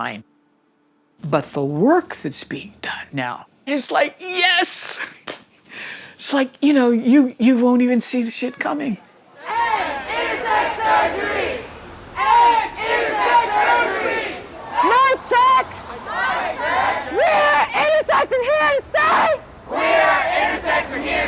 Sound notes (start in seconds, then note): 4.8 chuckles; 9.3 chanting